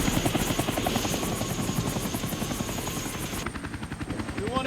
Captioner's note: aircraft noise